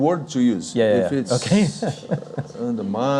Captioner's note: laughing